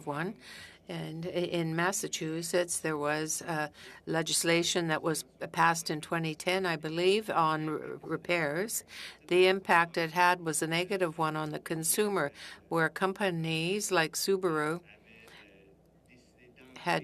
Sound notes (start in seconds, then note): 0.7 speaking French